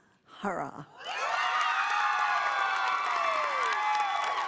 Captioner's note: applause